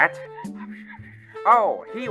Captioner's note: whispers